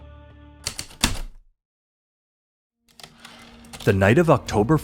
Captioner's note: heavy typewriter keystrokes, return slide